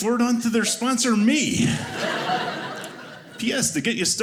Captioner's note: audience laughing